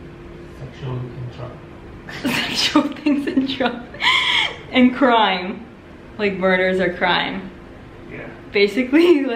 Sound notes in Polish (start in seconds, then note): 2.1 chichot